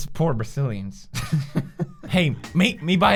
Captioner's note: laughter